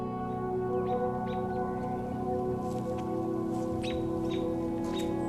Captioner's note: birds chirping